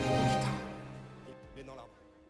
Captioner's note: drone crash